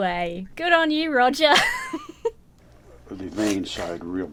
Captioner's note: laughs